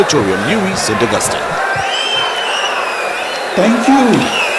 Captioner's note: wild applause and cheering for 22 seconds